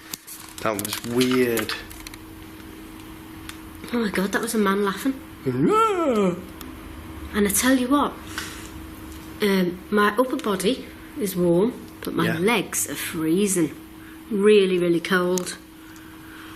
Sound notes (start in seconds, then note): 5.4 groans